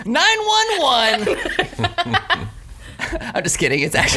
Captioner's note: laughs